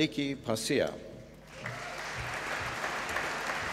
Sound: applause

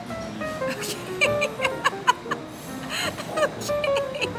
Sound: laughing

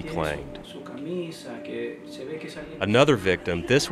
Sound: speaking in foreign language

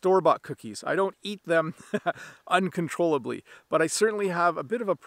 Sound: chuckling

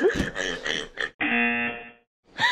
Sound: woman laughing; buzzer

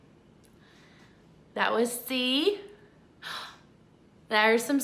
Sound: gasps

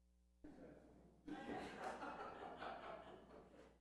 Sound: laughs

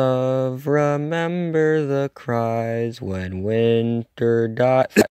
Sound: cough

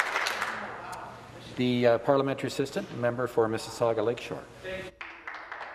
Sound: some Applause

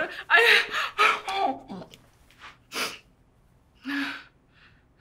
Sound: Jo breathing heavily

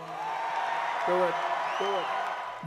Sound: cheering and applause

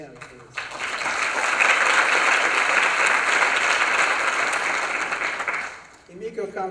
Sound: applause

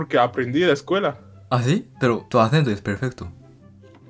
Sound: Spanish

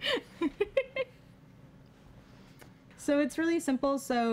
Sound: giggling

